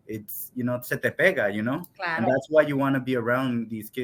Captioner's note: speaks in Spanish